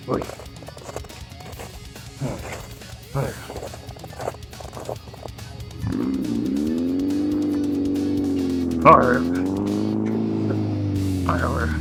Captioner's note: speaking foreign language